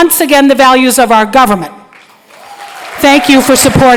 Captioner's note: applause